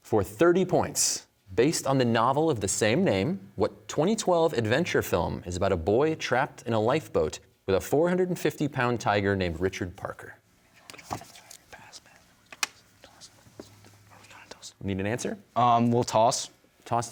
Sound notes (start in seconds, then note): 11.0 whispering; 13.1 team whispering